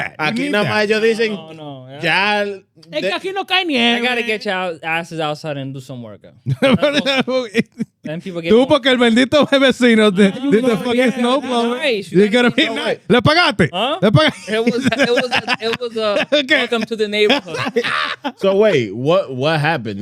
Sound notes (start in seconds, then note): 0.2 speaking In Foreign Language; 8.1 laughing; 8.1 speaking In Foreign Language; 13.7 speaking In Foreign Language; 14.0 laughing